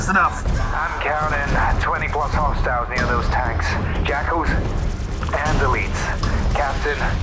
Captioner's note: over comms